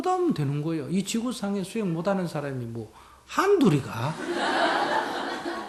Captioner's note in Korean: 청중 웃음